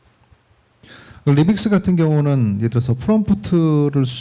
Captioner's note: speaking korean